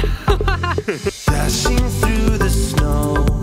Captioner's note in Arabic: يضحك